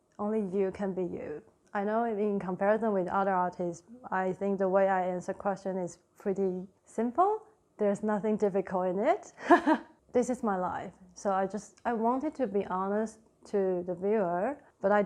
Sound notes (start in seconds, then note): 9.4 laughs